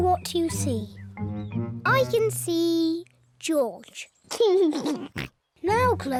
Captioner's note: laughs